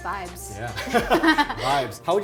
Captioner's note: Megan laughs; laughs